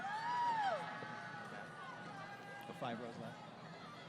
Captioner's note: crowd Cheering